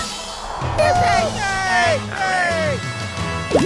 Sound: cheering

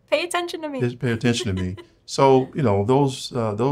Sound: laughs

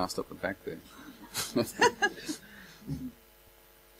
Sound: laughter

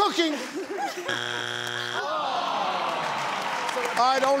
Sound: machine buzzes

